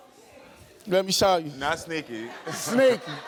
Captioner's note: audience laughs